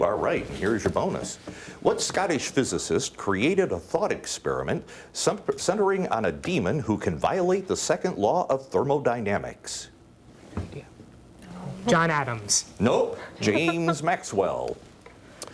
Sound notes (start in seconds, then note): 10.2 whispering; 13.4 laughing